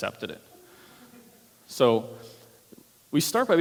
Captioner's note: laughter